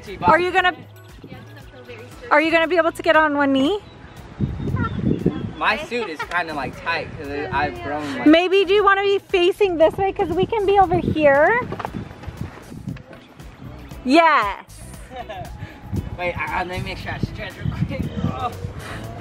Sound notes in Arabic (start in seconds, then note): 15.0 يضحك